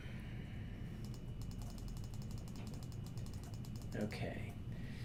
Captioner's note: mouse clicking